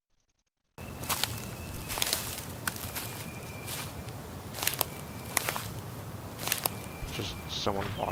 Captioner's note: crunching footstep sounds